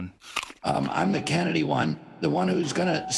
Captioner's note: bites into burger